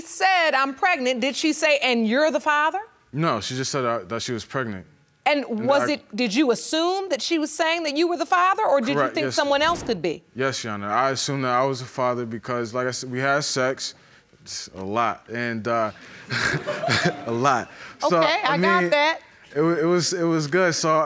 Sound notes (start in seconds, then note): 15.9 chuckling; 16.0 audience giggling